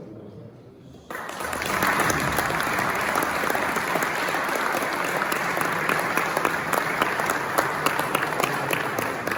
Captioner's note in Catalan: Aplaudiment